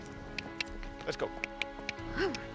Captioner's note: tongue clicking